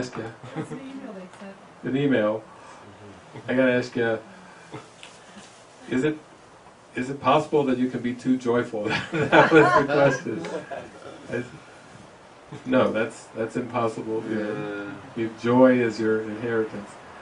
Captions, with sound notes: I gotta ask you. Is it - is it possible that you could be too joyful?" [laughter] No, that's - that's impossible. Your joy is your inheritance.